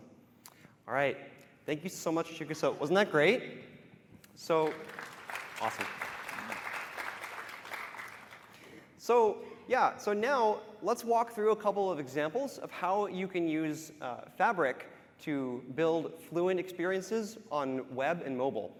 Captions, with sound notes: PETER TO TALK ABOUT WEB AND MOBILE. >> AWESOME. ALL RIGHT. THANK YOU SO MUCH CHIGUSA. WASN'T THAT GREAT? [APPLAUSE] AWESOME. SO YEAH, SO NOW, LET'S WALK THROUGH A COUPLE OF EXAMPLES OF HOW YOU CAN USE FABRIC